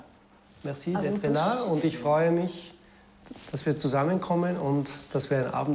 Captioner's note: speaking in foreign language